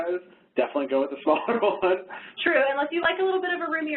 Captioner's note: laughs